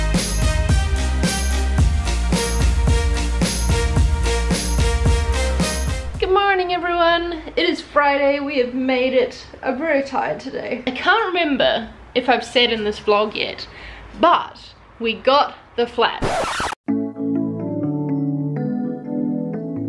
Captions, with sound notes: Good morning everyone, it is Friday we have made it, I'm very tired today, I can't remember if I've said in this vlog yet, but, we got the flat. (record scratches) (gentle music)